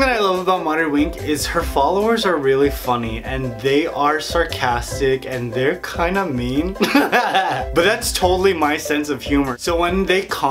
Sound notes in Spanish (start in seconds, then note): 6.8 risas